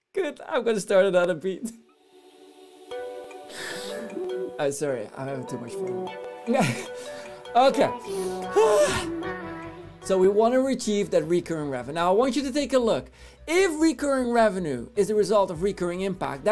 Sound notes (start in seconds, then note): 2.6 background upbeat music; 6.4 background upbeat music; 8.0 sighing